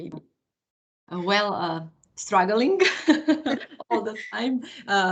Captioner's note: laugh